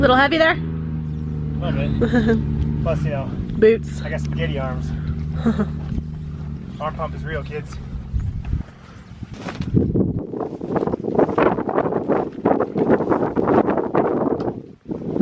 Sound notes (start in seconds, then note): 1.8 laughing; 10.1 wind blowing